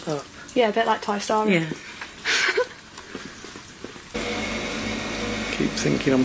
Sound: giggles

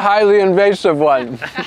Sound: audience chatter

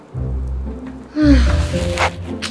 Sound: sigh

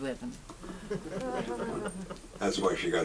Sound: audience chuckles

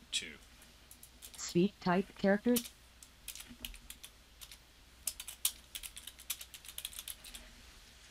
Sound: Sound of typing but NVDA does not read them

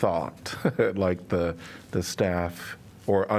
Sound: laughter

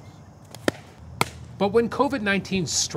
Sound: ball thuds into mitt

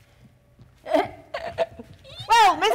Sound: Sharik softly chuckling

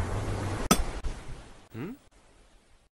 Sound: ocean sounds; pickaxe hits stone

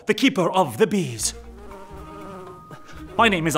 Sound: bees buzzing

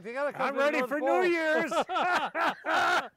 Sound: all laughing

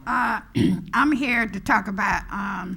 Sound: clears throat

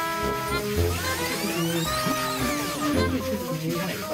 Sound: rinsing hard

